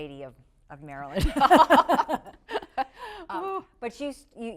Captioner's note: laughing